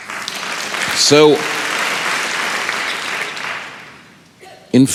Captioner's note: applause